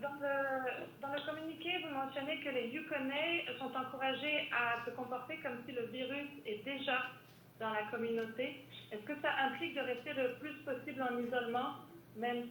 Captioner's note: speaking French